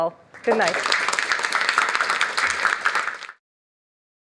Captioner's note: applause